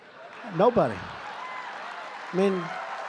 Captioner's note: applause